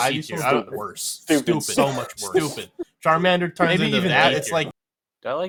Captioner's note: audio glitch